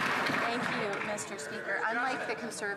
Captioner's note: some Applause